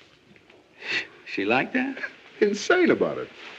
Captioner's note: laughing